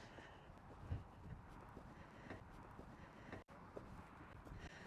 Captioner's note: light breeze, footsteps on hard ground